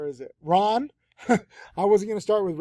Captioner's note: chuckles